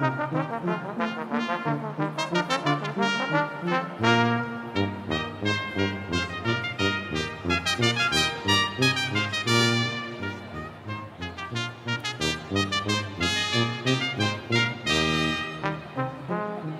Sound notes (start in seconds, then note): none